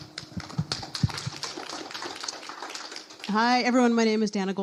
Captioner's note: audience applause